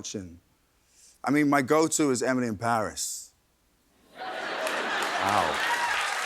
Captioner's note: applause